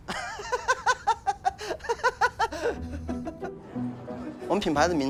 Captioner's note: laughing